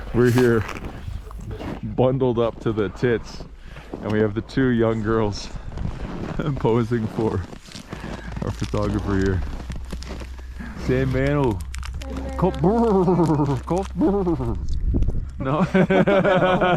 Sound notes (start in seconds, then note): 11.2 speaks in foreign language